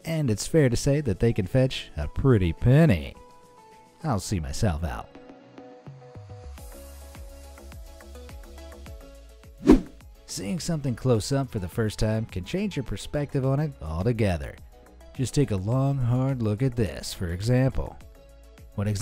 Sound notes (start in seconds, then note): 5.5 bright music; 9.6 air whooshing